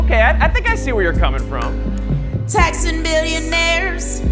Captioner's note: none